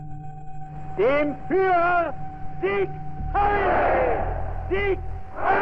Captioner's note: male voice speaking German